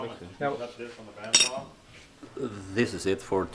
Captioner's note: men chattering